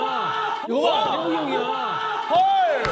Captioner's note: shouting